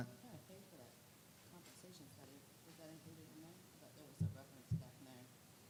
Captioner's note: muffled background chatter